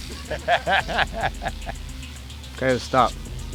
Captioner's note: laughs